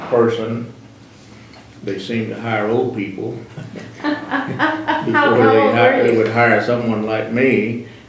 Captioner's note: laughter